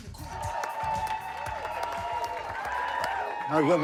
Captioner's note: cheers and applause